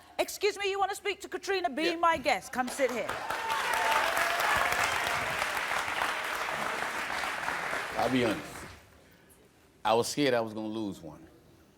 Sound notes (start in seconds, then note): 3.1 cheering